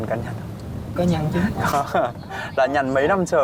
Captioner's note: huu